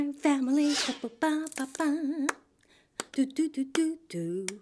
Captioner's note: humming a song